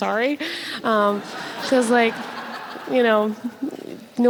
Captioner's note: audience laughs